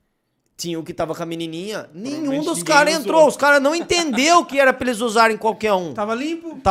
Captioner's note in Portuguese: risos